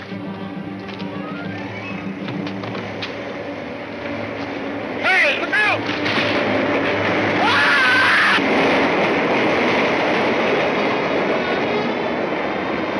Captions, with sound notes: - Hey! Look out! (Grub screams) (somber music)